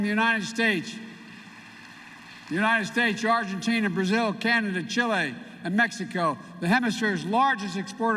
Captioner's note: applause